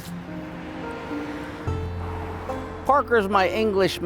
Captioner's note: light music; traffic humming